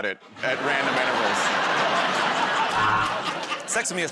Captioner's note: laughter